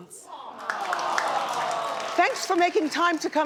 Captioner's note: audience applauds